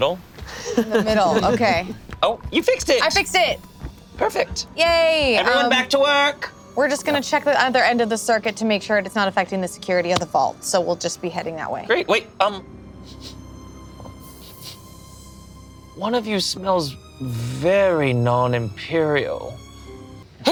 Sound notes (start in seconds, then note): 14.0 sniffing